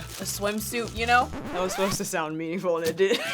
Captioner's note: record scratching; chuckling